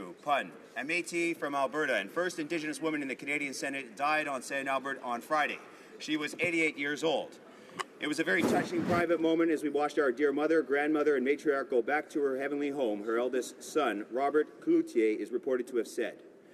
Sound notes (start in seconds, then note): 2.3 speaking native language